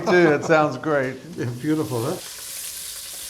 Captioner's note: laughs